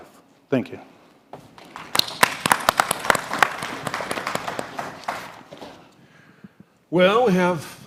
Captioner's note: applause